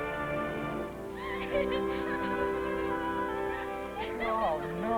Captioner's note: woman laughing